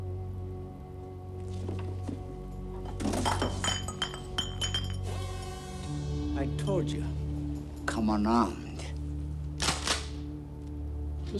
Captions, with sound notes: (bottles clanking) I told you, come unarmed. (gun cocking)